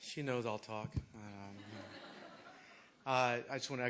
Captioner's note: laughter